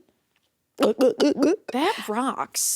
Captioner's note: throat swallowing